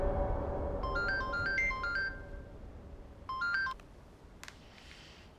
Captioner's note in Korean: 휴대전화벨 소리